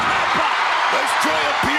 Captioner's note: crowd cheering